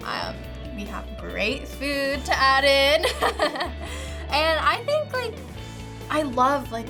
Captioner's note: laughs